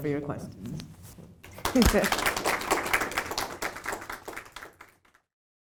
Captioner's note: audience clapping